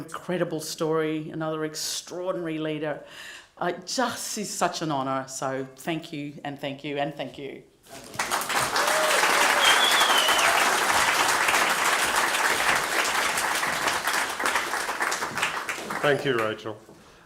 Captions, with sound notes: extraordinary leader... It just is such an honour. So, thank you, and thank you, and thank you. (APPLAUSE) >> Thank you, Rachael. The last time I introduced this person, she literally